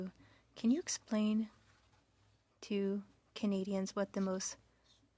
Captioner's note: speaking French